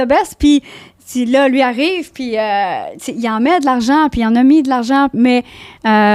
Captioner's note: in french